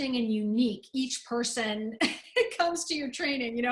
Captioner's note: laughter